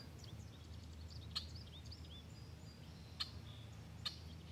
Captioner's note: bird chirping